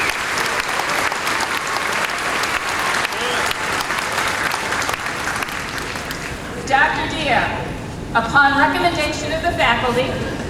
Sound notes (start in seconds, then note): 2.2 applause